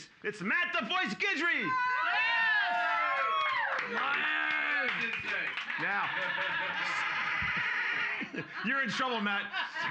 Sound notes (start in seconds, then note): 1.6 cheers and applause